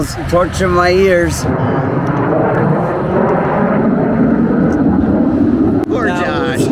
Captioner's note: jets flying